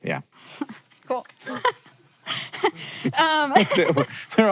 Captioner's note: chuckles